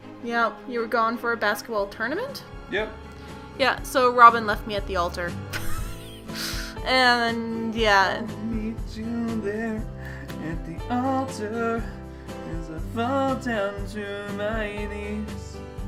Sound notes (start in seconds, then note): 5.3 pants; 6.2 snorts